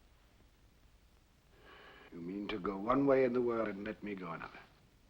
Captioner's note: sighs